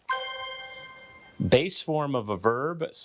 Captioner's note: bell dinging